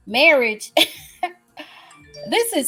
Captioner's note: laughs